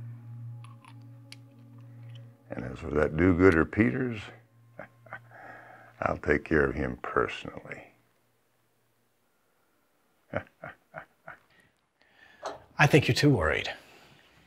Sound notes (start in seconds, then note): 4.7 chuckles